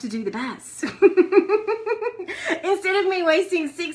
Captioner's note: laughs